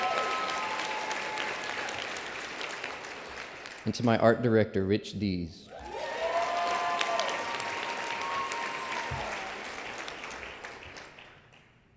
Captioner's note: applause